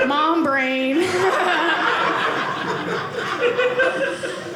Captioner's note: audience laughing